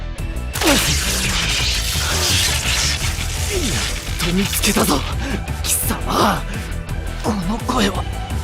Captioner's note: pant, pant